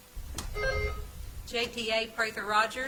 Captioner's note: bell ringing